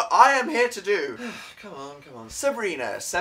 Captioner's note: sigh